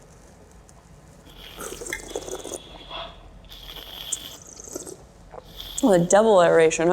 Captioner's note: both slurp